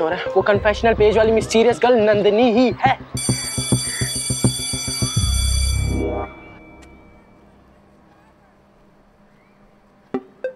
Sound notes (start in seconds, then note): 3.1 school bell ringing